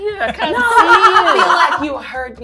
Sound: gamers laughing

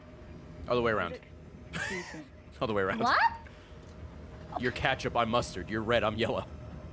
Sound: laughs

